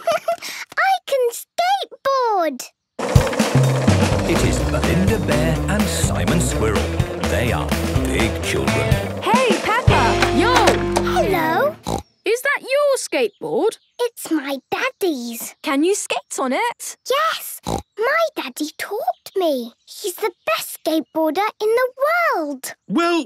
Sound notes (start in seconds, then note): 0.0 giggles; 11.1 snorts; 17.6 snorts